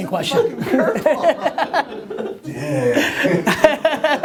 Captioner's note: laughter